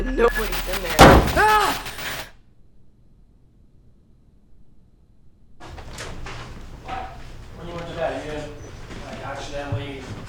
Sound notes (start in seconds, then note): 2.3 breathing heavily